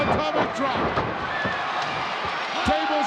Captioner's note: crowd cheering